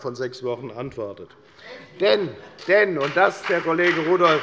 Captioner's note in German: Heiterkeit und Beifall bei der FDP